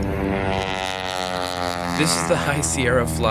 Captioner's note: loud plane flying